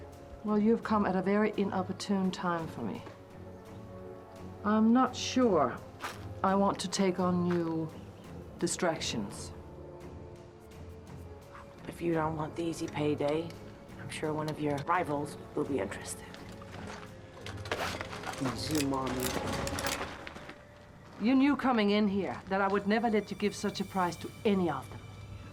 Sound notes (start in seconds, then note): 18.5 speaking Slavic language